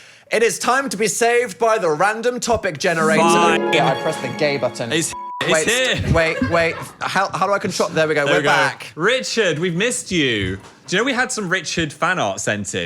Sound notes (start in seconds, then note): 3.1 beep